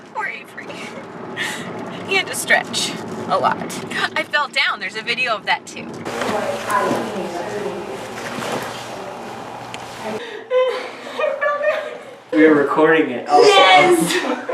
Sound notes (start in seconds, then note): 5.6 background chatter